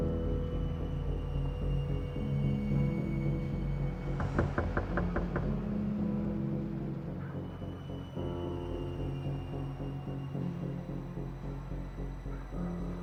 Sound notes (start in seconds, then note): 4.2 door knocking; 7.7 foreboding music